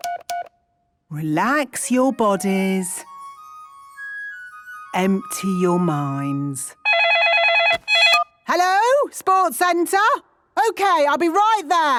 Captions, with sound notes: Relax your bodies. Empty your minds. (phone ringing) Hello?! Sports centre! Okay, I'll be right there!